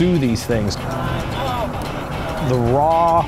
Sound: voiceover

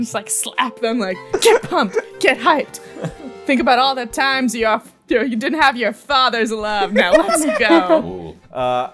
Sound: laughter

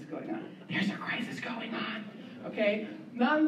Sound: whispering

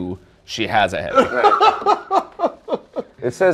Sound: laughter

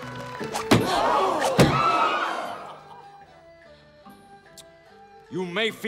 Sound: all gasping

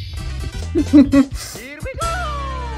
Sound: chuckle

